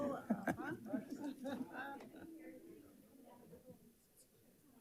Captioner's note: audience chatting